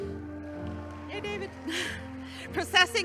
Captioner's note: chuckles